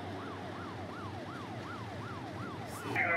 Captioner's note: Siren wailing